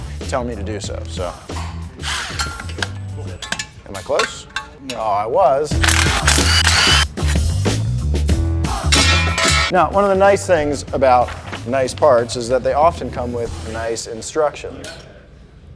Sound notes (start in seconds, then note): 1.5 metal clinks; 2.0 power drill buzzes; 5.8 power drill buzzes; 8.9 metal clangs onto floor